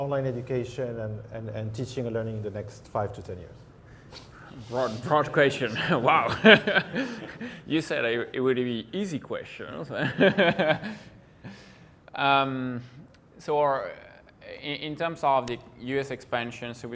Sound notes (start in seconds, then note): 6.9 laughs gently; 9.9 laughs gently